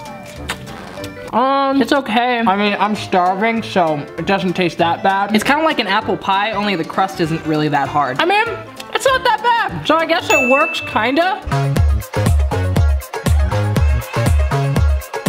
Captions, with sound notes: Um, it's okay. I mean, I'm starving so it doesn't taste that bad. It's kind of like an apple pie, only the crust isn't really that hard. I mean, it's not that bad, so I guess it works, (bell dings) kind of? (upbeat pop music)